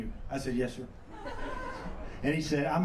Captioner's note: laughs